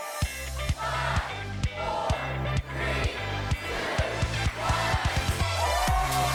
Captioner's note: upbeat music; crowd; energetic upbeat music